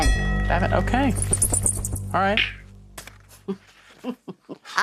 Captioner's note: scoffs; Sharon chuckles